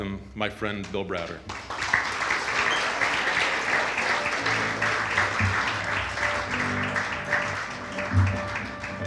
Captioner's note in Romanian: Aplauze